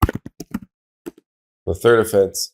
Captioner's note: keyboard typing